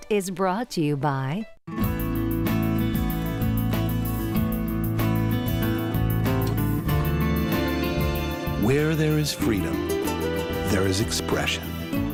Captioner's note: voiceover